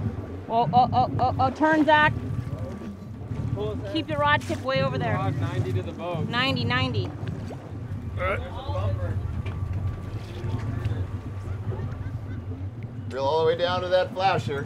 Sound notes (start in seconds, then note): 12.5 background chatter